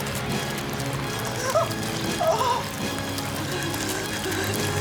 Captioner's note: gasping